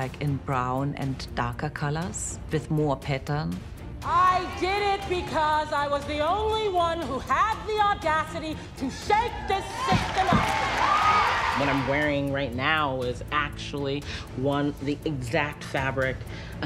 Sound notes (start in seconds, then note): 9.3 cheering